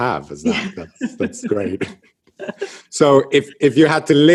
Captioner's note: laughs